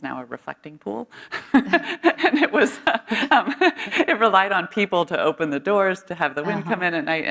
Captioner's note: laughs